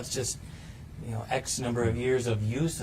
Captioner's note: none